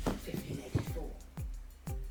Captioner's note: thunk of head hitting table